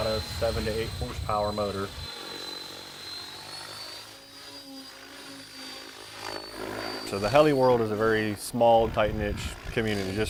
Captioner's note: electric motor whine, propeller blade sounds